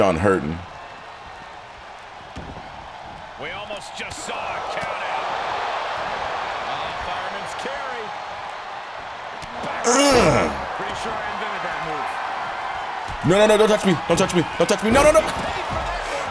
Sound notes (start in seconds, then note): 5.2 applause